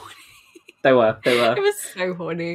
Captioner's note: laughing